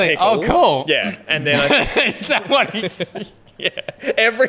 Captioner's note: laughing